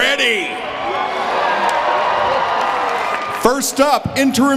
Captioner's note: audience cheering